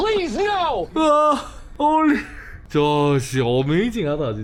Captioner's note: shouts of excitement